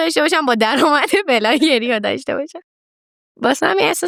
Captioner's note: laughs